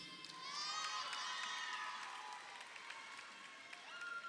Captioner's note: crowd cheering